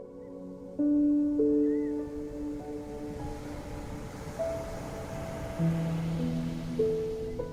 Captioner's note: gentle music continues; waves crashing